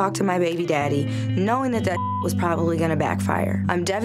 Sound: beep

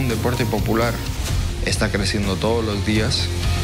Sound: speaking in Spanish

